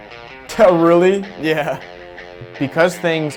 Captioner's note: chuckles